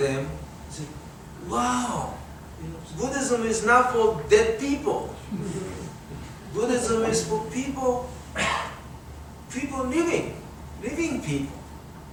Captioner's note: audience chuckles